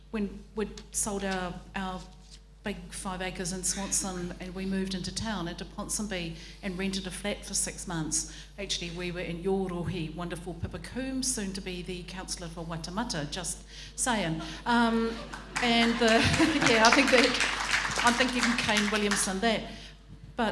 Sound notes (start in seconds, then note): 9.4 speaks in foreign language; 15.0 audience applauding